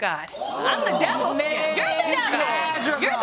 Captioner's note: audience gasp